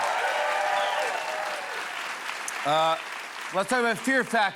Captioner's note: cheers and applause